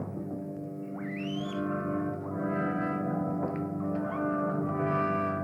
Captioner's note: guinea pig squeaking